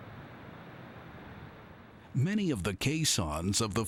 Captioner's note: waves gushing